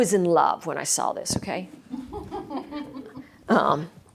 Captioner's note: laughter